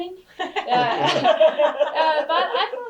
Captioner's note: all laughing